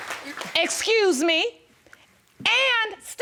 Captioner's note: stammering